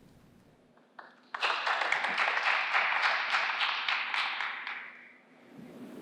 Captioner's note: applause